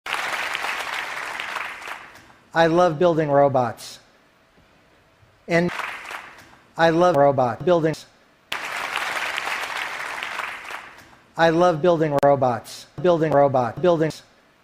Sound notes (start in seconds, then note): 0.0 applause; 6.6 robot; 8.5 applause; 13.3 robot